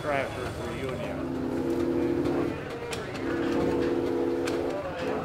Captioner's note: steam engine whines